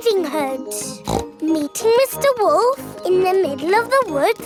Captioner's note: snorts